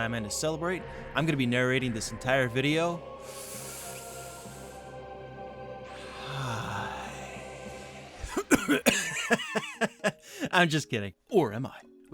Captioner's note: inhales; laughs